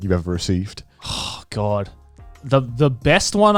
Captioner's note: sighing